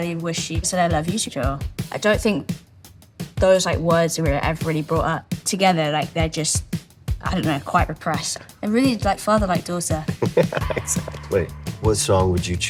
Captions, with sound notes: wished she said "I love you" to Joel. I don't think those words were ever really brought up together. Like, they're just, I don't know, quite repressed. They're really like father, like daughter. (CHUCKLES) Yeah, exactly.